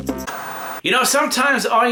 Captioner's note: static buzzing